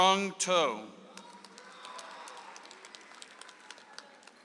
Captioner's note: audience applauds